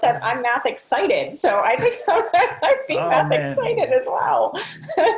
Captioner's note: laughing